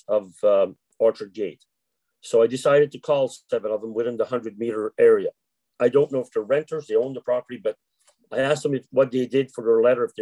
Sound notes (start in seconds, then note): none